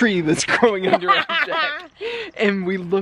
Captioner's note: laughter